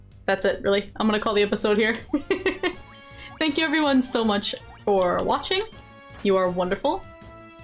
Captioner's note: laughs